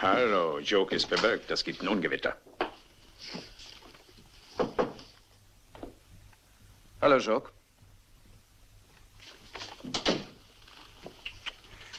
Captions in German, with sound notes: Hallo, hallo. Das gibt Ärger. Merken Sie sich meine Worte. [Klopfen] Hallo, Jock.